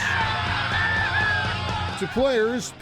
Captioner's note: crowd cheering